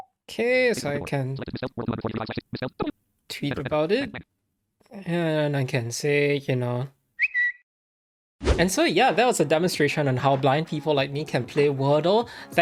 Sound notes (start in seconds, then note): 0.0 JAWS speaking rapidly; 1.7 JAWS speaking rapidly; 7.2 Twitter whistle